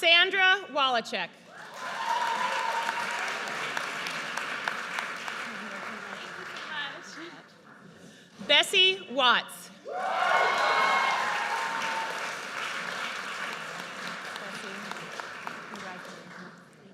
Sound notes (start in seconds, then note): 1.6 audience cheers; 9.8 audience cheers